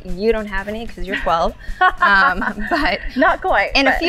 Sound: laughs

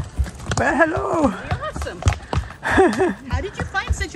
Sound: laughs

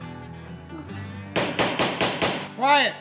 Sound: Ray and Zeke whispering; gavel bangs

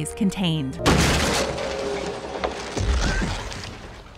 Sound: crashing

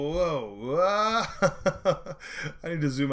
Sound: laughing

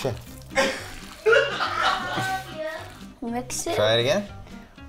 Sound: laughter

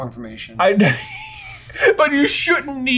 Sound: laughs

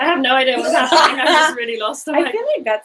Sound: laughing

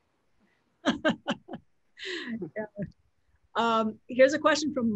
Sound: laughs

